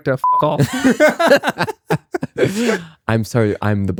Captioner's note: laughing